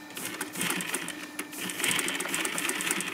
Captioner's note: rattling of the sewing machine